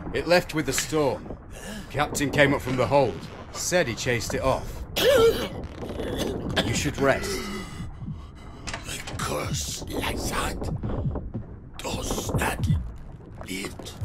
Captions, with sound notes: "It left with the storm." "Captain came up from the hold..." "Said he chased it off." [heavy cough] "You should rest." "A curse like that?....." "Does not lift...."